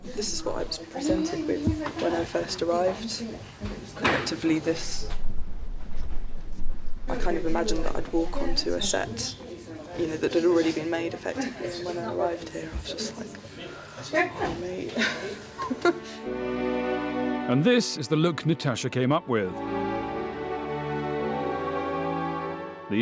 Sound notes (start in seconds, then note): 14.1 laughs